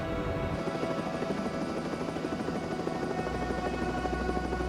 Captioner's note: helicopter whirring